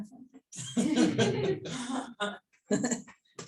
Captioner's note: laughter